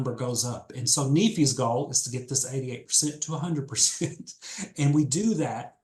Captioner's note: laughs